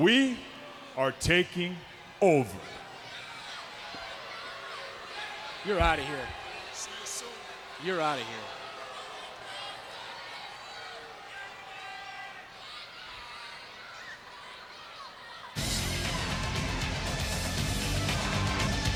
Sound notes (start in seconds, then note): 11.1 audience jeers; 16.1 upbeat music